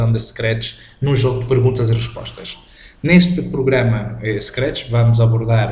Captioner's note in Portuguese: scratch